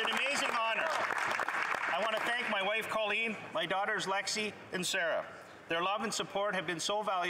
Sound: some Applause

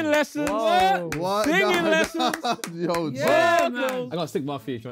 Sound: Sidemen clapping

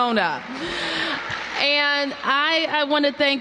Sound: applause

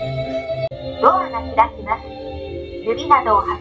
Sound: annoucements in japanese

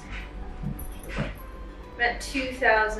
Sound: collar shaking

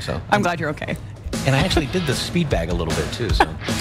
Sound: laughter

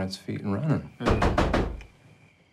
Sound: knocking on door

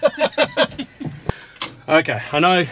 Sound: laughing

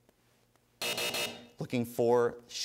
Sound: buzzing

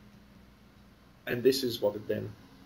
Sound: pause

